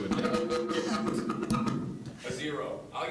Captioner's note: mic feedback